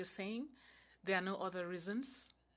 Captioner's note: speaking French